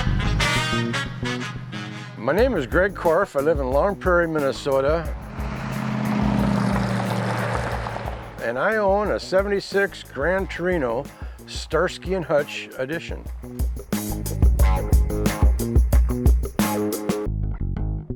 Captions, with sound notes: - My name is Greg Korfe. I live in Long Prairie, Minnesota (car engine rumbling) and I own a '76 Grand Torino "Starsky and Hutch" edition. (groovy music continues)